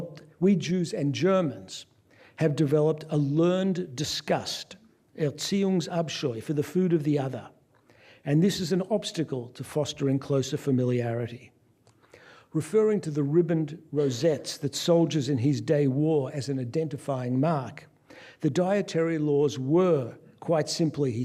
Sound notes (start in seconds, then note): 5.1 non-english speech